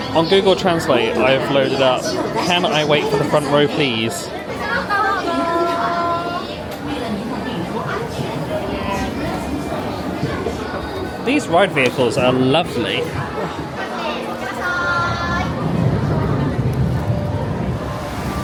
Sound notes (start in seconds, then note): 5.6 crowd murmuring; 14.3 people speaking Japanese; 18.2 water flowing